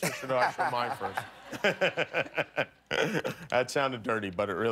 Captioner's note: laughter